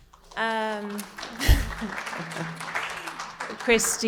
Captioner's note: audience applauding